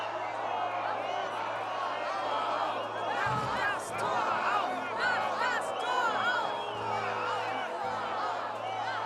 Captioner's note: chant